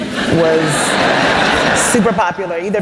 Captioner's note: laughter